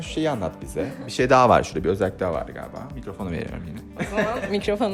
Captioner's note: laughter